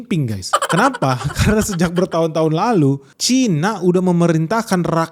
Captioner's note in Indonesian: tertawa